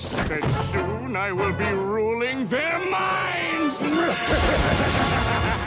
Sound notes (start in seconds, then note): 3.6 laughs maniacally